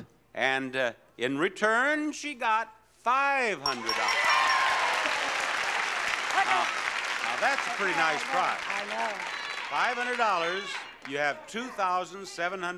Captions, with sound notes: and in return, she got $500. (bell rings) (audience cheers) Now that's a pretty nice prize. I know. $500, you have 2,736 miles to go,